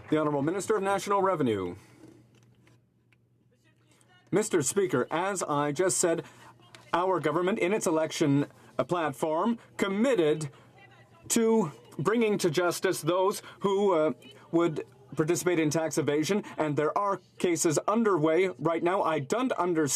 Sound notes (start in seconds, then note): 5.0 speaking French